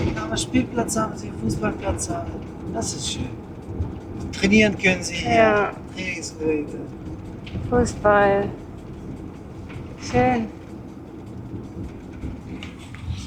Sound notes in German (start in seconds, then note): none